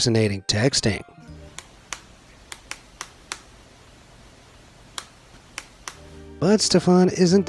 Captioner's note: homemade glove clanks